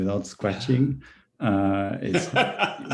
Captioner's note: laughs